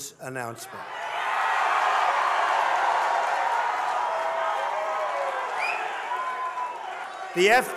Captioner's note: crowd cheering